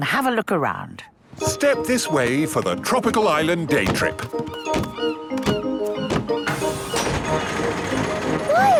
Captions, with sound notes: and have a look around. - Step this way for the Tropical Island Day Trip! (gulls squawking)